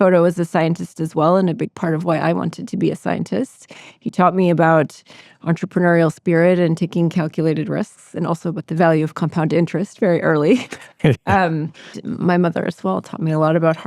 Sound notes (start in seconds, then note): 10.6 both chuckle